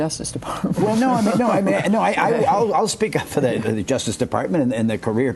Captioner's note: laughter